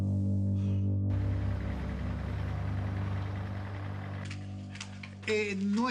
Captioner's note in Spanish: Sonido del motor